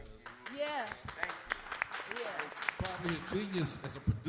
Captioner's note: applause